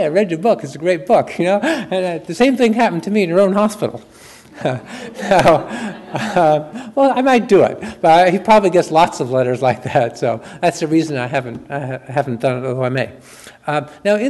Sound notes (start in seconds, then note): 4.5 chuckles; 4.5 audience laughs